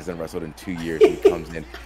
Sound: laugh

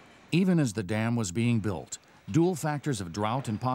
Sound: voiceover

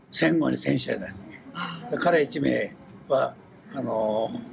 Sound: foreign language

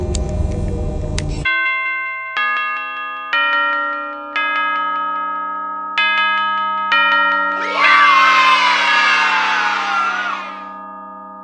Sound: bells

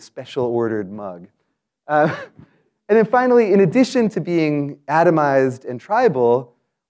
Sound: laugh

